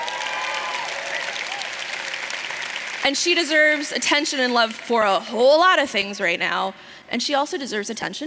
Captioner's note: cheers